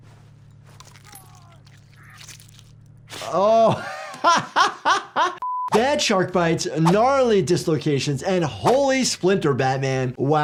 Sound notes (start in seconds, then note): 0.8 player character crunches and screams; 3.2 laughs